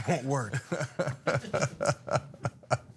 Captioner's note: laugh